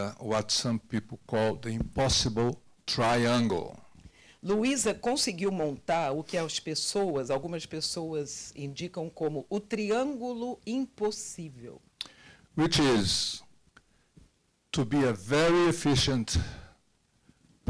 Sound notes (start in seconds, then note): 4.6 translator speaking Portuguese